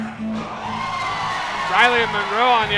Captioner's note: crowd cheering